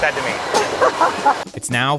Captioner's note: laughing